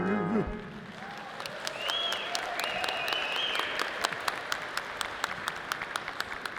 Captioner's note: audience cheering and clapping